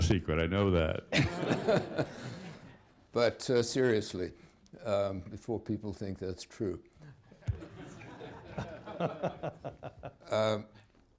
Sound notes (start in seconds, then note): 0.0 laughter